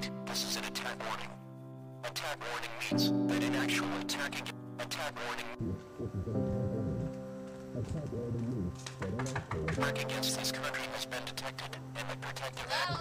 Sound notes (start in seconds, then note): 0.3 distorted Announcer; 6.5 muffled TV from within; 9.2 woman knocks